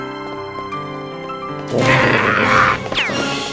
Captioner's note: rabid growling